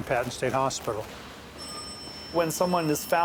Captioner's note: elevator dings